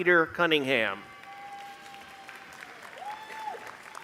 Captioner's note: applause